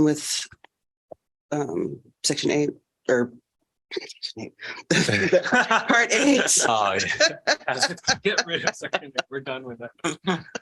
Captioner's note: laughter